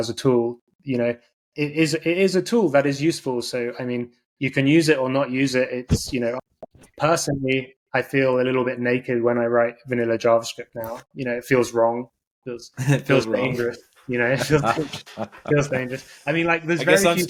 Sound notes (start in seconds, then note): 14.2 laughing